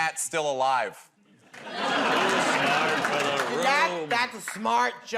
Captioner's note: laughter